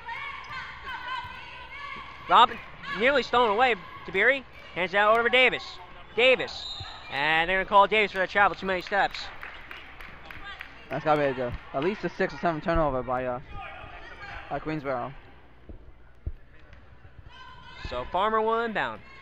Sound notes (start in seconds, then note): 0.1 crowd cheers; 8.1 crowd applauds; 16.6 crowd cheers